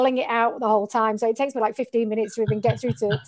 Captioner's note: laughing